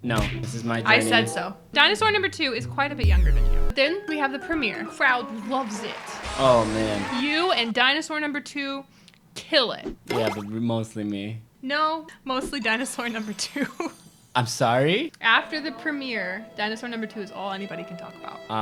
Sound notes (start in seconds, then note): 11.8 laughing